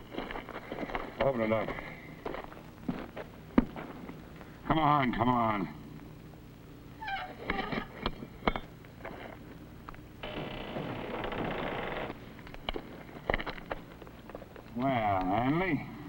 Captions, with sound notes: - Open it up. Come on, come on. (latch squeaks) (door creaks) Well, Hanley.